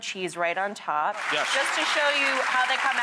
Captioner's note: applause